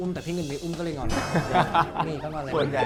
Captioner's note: laughter